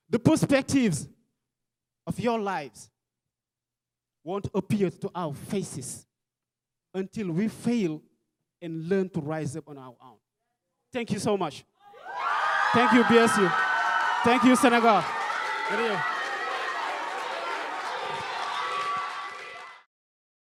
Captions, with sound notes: The perspectives of your lives won't appear to our faces until we fail and learn to rise up on our own. Thank you so much. (audience cheering) Thank you, BSU. Thank you, Senegal. Good day. (audience chanting and clapping)